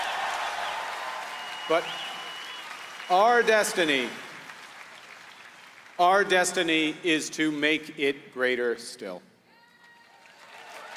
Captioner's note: applause